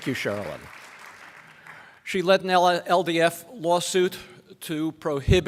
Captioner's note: applause